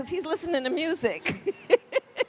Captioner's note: laughs